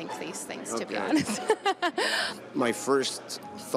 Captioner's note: laughs